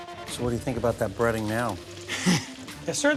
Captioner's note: chuckles